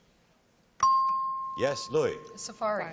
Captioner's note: dings